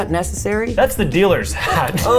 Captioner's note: chuckling